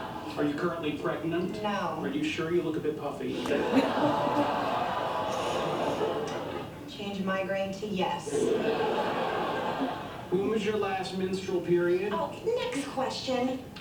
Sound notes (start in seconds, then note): 3.4 audience laughter; 8.3 audience laughter